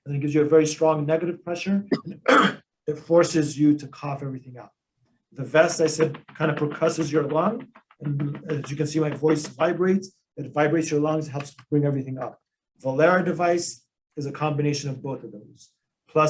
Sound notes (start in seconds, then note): 1.8 coughs; 5.7 thumps